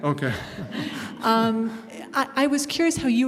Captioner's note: laughter